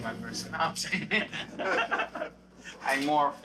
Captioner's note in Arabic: كلاهما يضحك